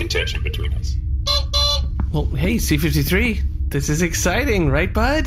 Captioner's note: horn honks